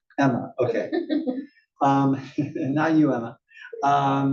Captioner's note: laugh